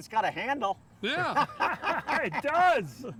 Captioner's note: laughs